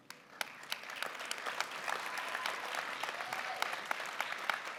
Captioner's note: applause